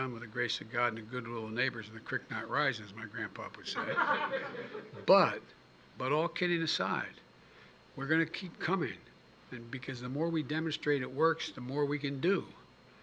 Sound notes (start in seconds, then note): 3.6 laughter